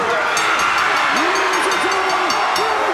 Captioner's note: bell rings